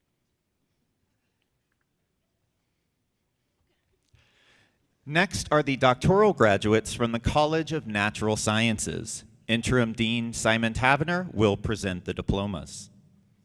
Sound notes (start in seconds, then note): none